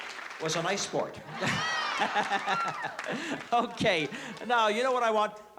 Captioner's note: laughs